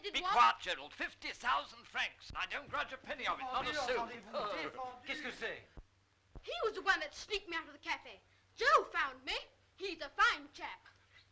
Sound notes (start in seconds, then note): 3.4 men shouting